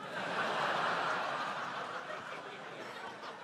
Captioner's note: laughter